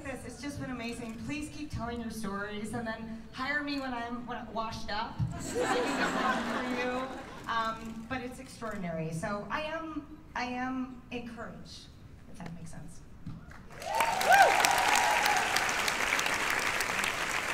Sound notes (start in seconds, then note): 5.3 laughter; 13.5 cheers and applause